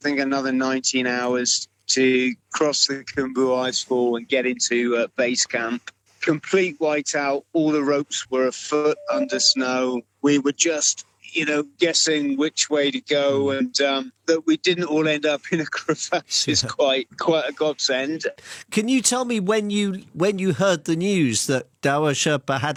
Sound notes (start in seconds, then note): 16.3 laughs